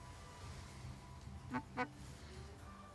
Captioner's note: mobile vibrates